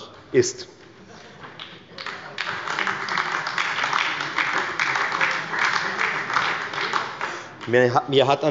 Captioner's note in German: Beifall bei der FDP und der SPD